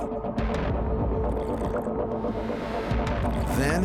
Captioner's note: slurps